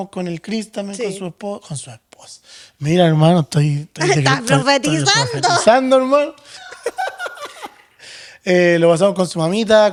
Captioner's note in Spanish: risas